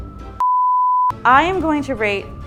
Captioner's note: beeping